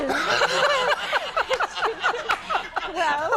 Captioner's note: everyone laughing